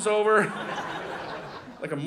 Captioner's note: audience laughing